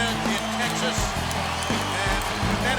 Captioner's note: crowd cheering